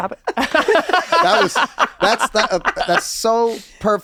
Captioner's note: all laugh